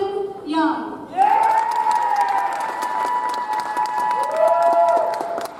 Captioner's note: audience applauds